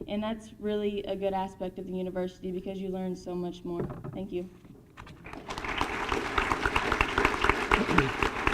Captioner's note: applause